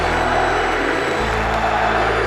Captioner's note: cheers and applause